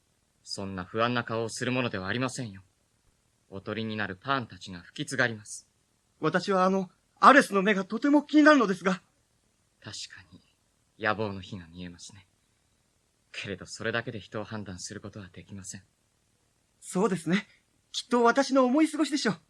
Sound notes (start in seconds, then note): none